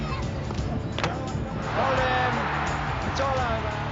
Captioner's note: cricket bat cracks against ball